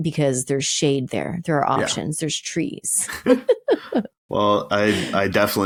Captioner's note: laughs